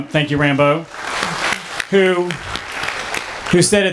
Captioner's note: clapping